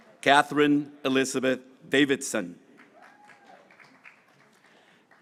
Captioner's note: graduates cheering